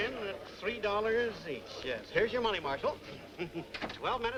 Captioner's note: chuckles